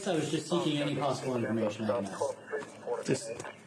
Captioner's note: radio chatter